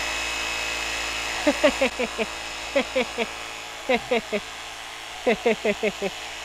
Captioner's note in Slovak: Smiech